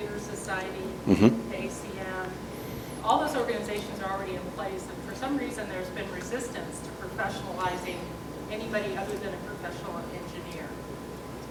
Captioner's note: speaking off microphone